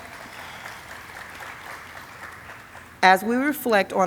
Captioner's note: audience applauding